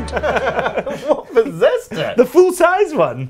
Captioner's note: laughing